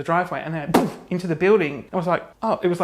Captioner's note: imitating crash